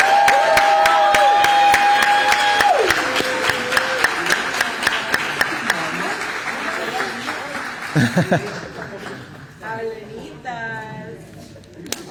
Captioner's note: applause